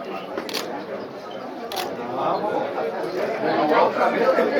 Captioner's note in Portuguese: disparo de câmera fotográfica